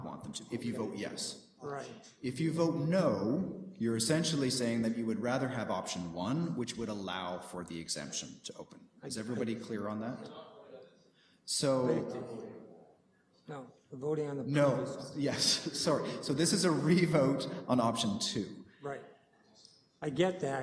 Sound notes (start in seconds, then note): 11.8 background chatter